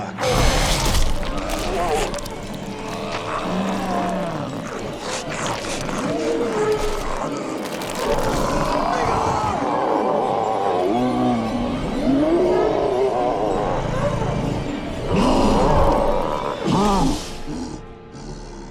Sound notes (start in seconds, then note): 0.0 Bigelow screaming; 0.1 The Patriarch munching; 9.7 The Patriarch snarling; 9.7 eerie music